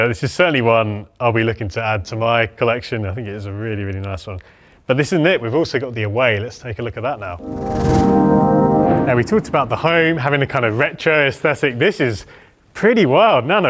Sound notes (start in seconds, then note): 7.3 musical whoosh